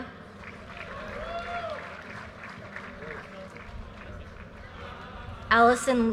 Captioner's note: audience cheers and applause